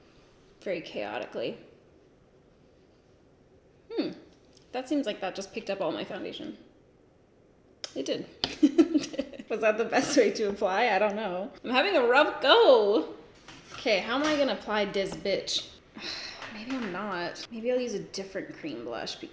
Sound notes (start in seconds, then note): 8.6 laughs; 15.9 sighs